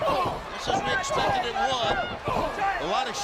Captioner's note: crowd chatter